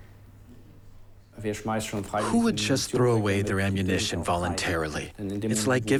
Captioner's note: in German